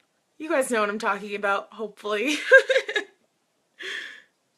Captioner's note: laughs